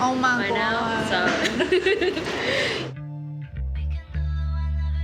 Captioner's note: laughs